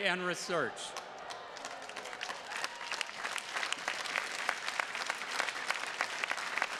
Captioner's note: attendees cheers and claps